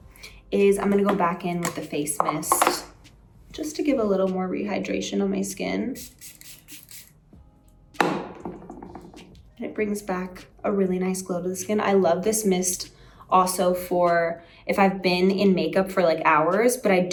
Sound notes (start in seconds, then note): 5.9 upbeat music; 8.0 face mist thudding